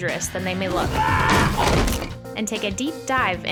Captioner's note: man screaming